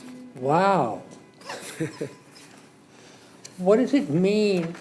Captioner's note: laughs